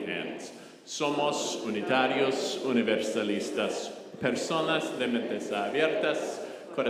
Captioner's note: congregation speaking in foreign language